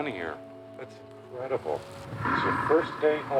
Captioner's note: bear growling